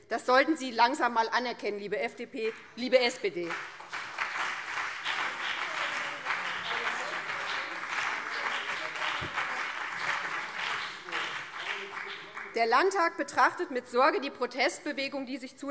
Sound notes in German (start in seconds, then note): 3.3 Beifall BÜNDNIS 90/DIE GRÜNEN und CDU